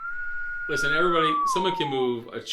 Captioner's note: whistling